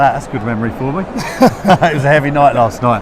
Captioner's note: laughter